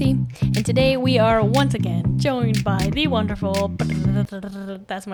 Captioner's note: attempt at mouth drum roll